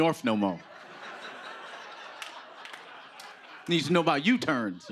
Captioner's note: laughter